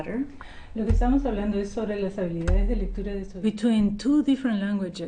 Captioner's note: speaking foreign language